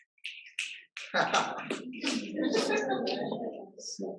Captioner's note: laughs, as audience starts snapping